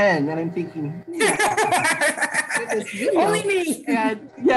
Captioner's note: laughing